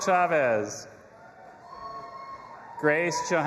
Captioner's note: audience applauding and cheering